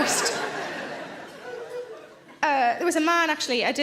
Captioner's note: audience laughs